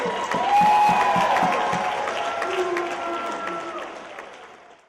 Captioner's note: cheers and applause